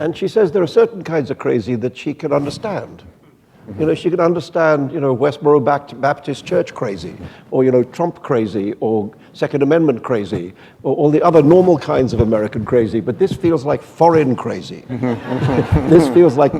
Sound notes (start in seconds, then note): 14.9 laughter